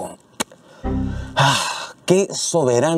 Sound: sigh

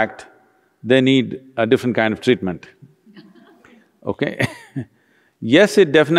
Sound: laughs

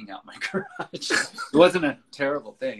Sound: laughs

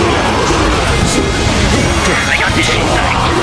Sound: radio Chatter Custom Dialogue

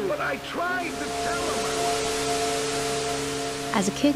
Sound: static buzzing

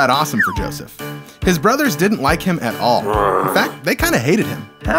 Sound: snarl

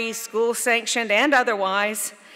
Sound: none

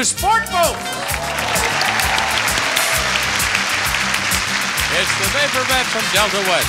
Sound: audience cheering and clapping

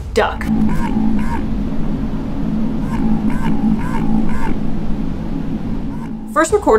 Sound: noise abruptly fluctuating between low & medium pitch

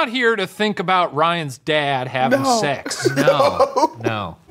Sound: laughs

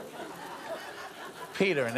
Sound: audience laughing

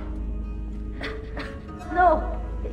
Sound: Claudia coughs

